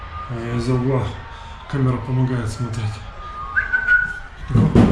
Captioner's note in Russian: Свистит